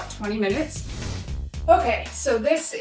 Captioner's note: screen whooshing